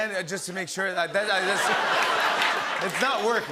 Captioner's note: laughter